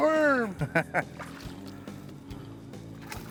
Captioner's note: chuckling